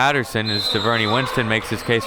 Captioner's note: whistle blows